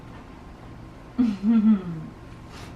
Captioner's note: chuckles